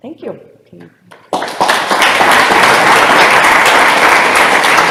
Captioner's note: applause